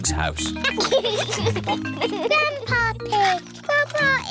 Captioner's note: giggles